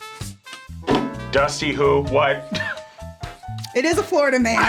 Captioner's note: laughs